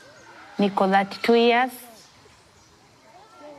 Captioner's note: non-english speech